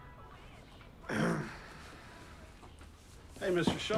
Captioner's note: Paul clears throat